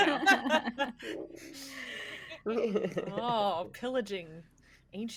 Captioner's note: everyone laughs